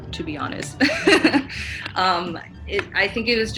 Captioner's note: giggles